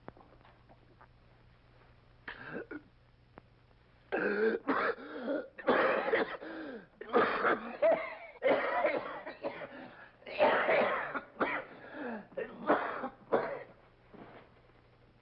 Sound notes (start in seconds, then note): 2.5 gasps; 4.7 coughs